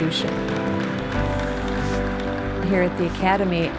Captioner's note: applause